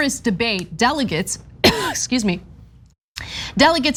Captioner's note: cough